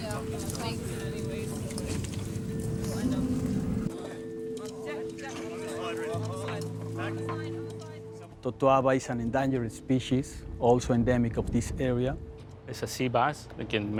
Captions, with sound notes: (gentle music) (people chattering) - Totoaba is an endangered species, also endemic of this area. It's a sea bass